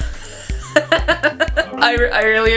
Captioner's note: wheezes